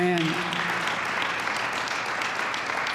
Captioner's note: applause